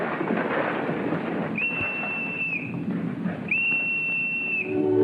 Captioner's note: whistle